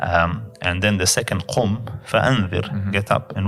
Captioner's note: Arabic